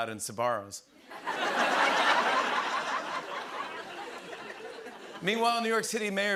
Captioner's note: laughter